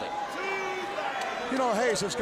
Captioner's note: crowd cheering